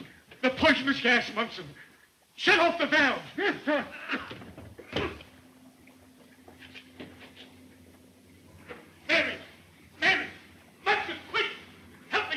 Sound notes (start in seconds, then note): 0.3 gasps; 6.3 coughs